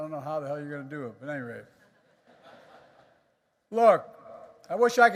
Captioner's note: laughter